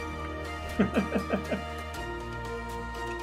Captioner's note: laughs